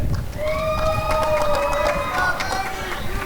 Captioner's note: applause and cheering